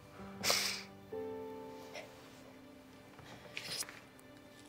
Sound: Grace sniffles

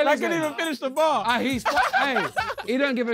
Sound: laughing

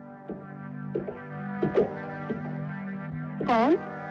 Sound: footsteps Approaching

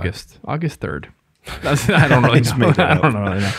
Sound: all laugh

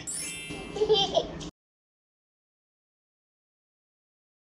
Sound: child laughing

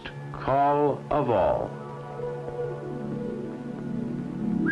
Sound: bobwhite call

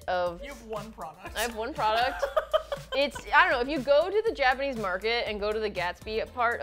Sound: laughs

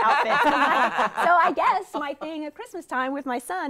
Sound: all laughing

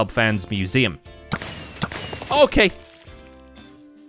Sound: fireworks exploding

